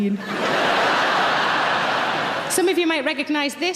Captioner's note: audience laughing